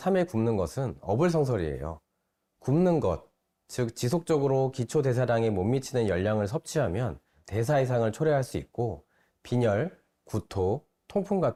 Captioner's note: voiceover